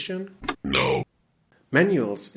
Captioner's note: robotic voice